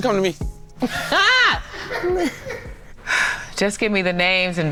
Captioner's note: yelling